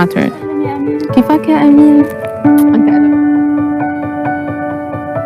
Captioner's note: speaking foreign language